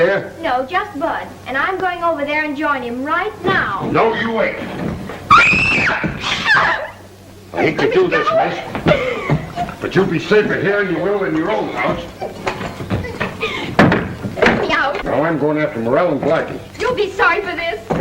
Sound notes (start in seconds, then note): 5.2 screams